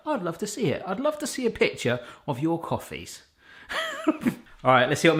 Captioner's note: laughs